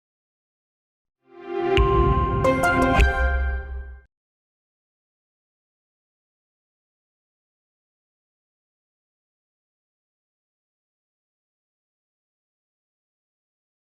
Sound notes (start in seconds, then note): 1.4 upbeat music; 1.8 logo dings